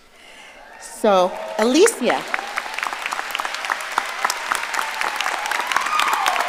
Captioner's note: audience applauding